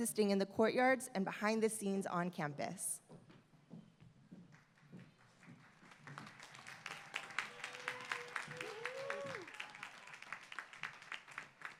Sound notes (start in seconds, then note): 5.1 applause